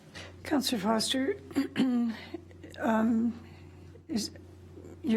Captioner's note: clears throat